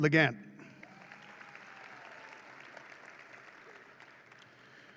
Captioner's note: audience claps